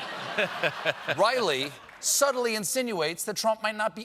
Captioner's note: laughter